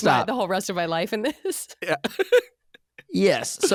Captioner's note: laughing